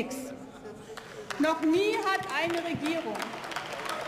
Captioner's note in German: Beifall